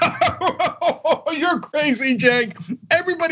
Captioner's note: laugh